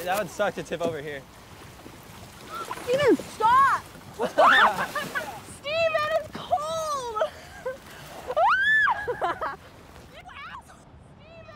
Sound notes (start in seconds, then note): 4.2 Stephen laughs; 4.4 screams; 8.3 screams